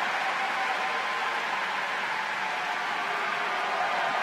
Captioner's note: cheering